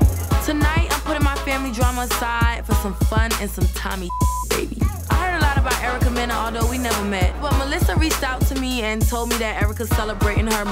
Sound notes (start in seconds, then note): 4.0 beep sound